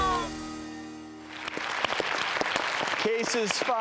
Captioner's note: audience applauding